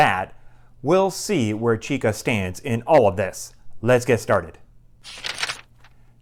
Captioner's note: page turning